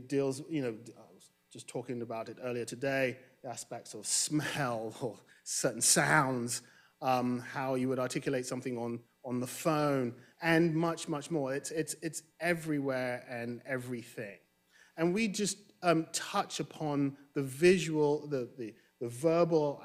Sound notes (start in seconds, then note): none